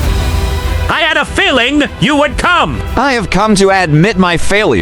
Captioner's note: voice heavy